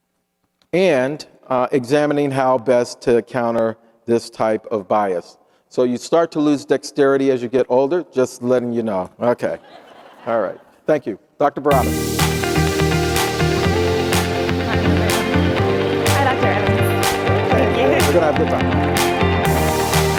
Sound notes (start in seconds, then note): 9.6 audience laughing; 12.8 upbeat music